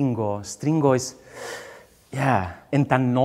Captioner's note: sharp breath in